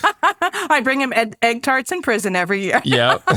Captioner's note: laughs